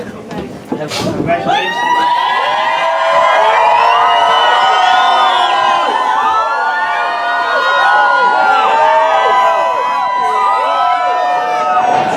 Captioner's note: cheers